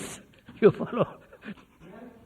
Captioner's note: laughs